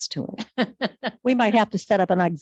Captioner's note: people chuckle